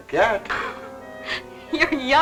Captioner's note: laughing